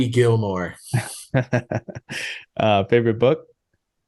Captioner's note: chuckling